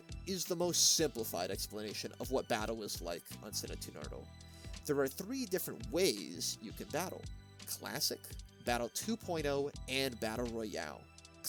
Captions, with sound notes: That is the most simplified explanation of what Battle is like on Cine2Nerdle. *breath* There are three different ways you can Battle. Classic, Battle 2.0, and Battle Royale.